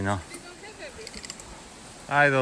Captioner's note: speaking in foreign language